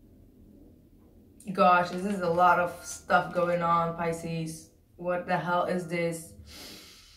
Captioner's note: deep breath